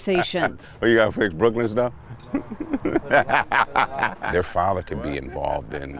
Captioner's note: laughs